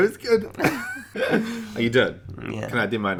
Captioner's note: laughing